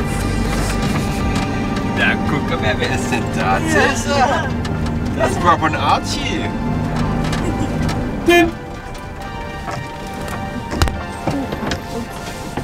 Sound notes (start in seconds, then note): 8.1 is honking